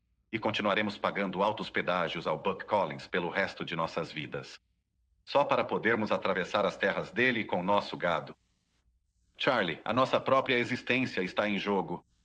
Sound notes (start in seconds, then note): none